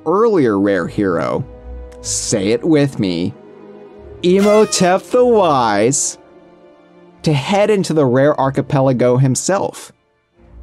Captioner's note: party horn